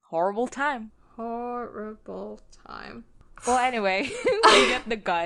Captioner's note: laughs